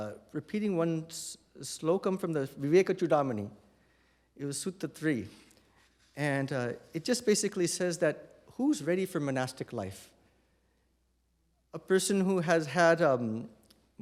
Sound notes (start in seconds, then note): none